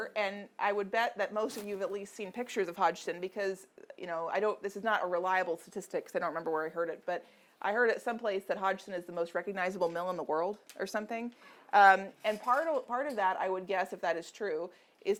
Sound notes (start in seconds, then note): none